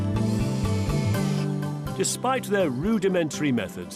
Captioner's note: electric screwdriver buzzing